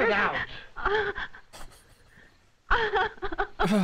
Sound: chuckles; sighs

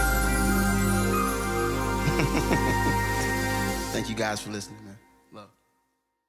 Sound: chuckle

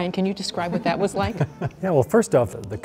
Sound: laughing

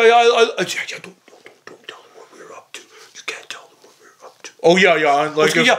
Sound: whispering

